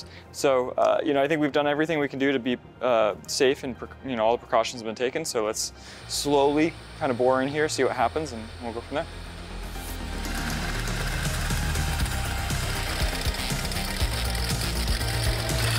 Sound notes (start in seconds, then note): 9.3 lively music; 9.6 spools scratching